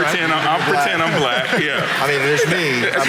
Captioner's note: audience laughing